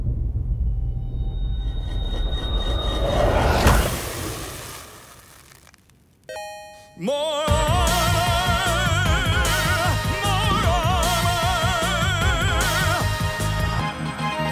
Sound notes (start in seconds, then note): 0.0 tense music; 6.3 armor chimes